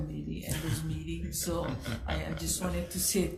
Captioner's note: laughs